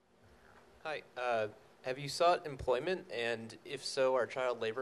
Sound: voiceover

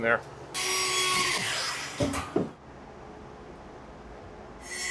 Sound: saw buzzing

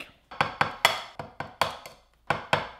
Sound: taps

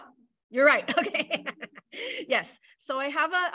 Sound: laughs

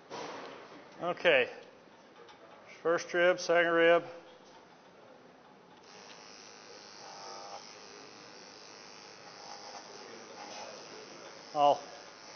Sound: razor buzzing

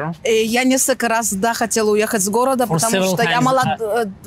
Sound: speaking in foreign language

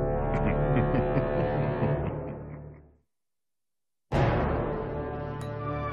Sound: chuckling

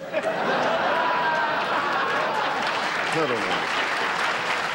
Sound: audience laughter

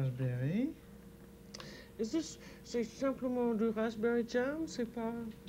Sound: speaking French

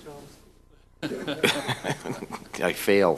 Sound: laughter

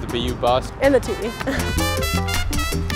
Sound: laugh

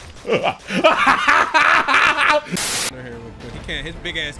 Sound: laughing

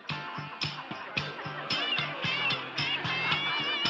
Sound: chattering

